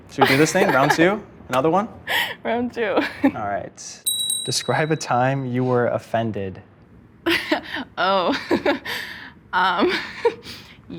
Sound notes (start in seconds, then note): 4.0 bell dings; 9.3 laughs